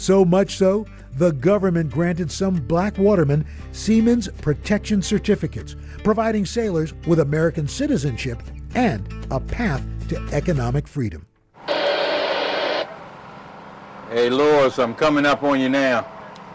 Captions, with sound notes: So much so the government granted some black watermen Siemens protection certificates, providing sailors with American citizenship and a path to economic freedom. (radio static) - Hey, Lawrence, I'm coming up on you now.